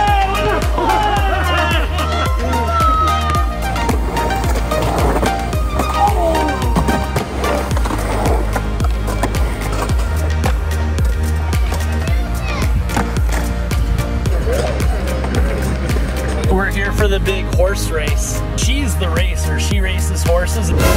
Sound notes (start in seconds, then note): 0.0 cheers; 4.0 skateboard scraping; 7.3 skateboard scraping